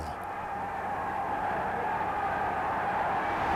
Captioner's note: crowd cheering